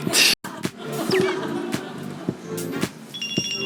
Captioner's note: ends up laughing